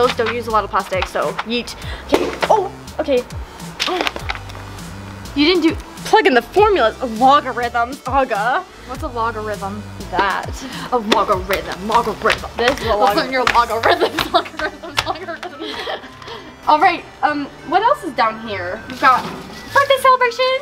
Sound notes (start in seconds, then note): 2.1 bottle hitting the floor; 11.1 chanting